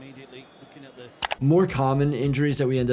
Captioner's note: keyboard clicking